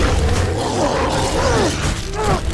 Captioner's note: growling